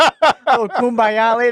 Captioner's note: laughing